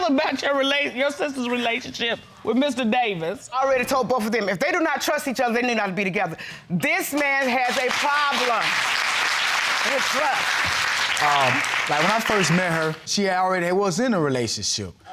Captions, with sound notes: How do you feel about your sister's relationship with Mr. Davis? I already told both of them. If they do not trust each other, they need not be together. This man has a problem. (AUDIENCE APPLAUDING) When I first met her, she already was in a relationship